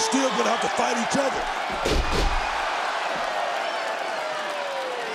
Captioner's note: crowd roars